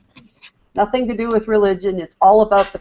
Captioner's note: screen reader speaking